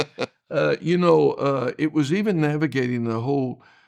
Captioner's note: laughing